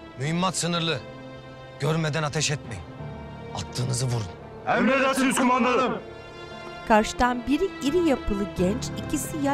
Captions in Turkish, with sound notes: Mühimmat sınırlı. Görmeden ateş etmeyin. Attığınızı vurun. (Hep bir ağızdan) Emredersiniz kumandanım.